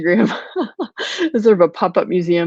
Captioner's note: laughing